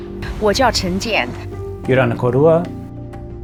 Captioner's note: speaks in foreign language